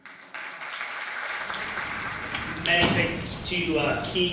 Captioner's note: audience applauds